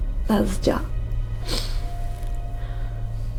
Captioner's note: Naomi sniffles